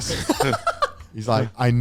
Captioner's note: laughs